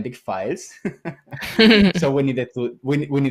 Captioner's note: laughs